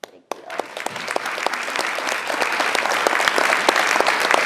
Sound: clapping

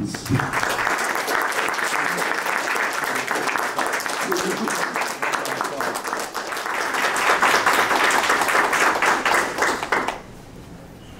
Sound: applause

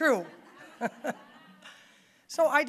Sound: audience laughing

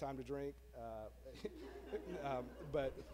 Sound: laughs

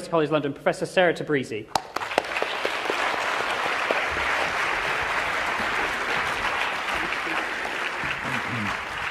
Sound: applause

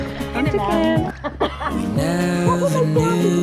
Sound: laughs

